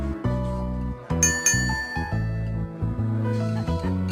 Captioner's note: ding ding ding